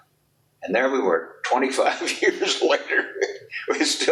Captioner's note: chuckles